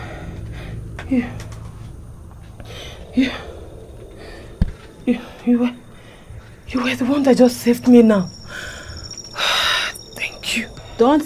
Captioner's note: sighs; sighs